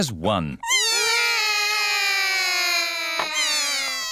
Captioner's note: all cry